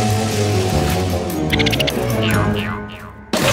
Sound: squeaking

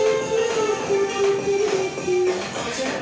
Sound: humming along to the melody

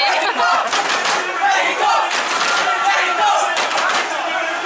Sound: "Mexico" chant

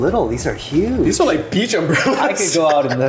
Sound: chuckles

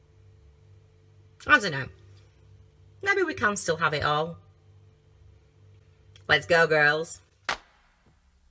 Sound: american accent

